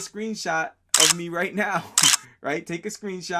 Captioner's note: camera clicking